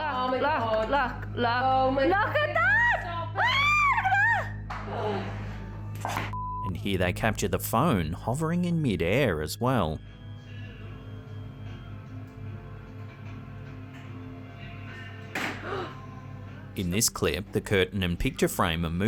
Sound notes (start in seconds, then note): 15.2 phone clattering; 15.5 woman gasping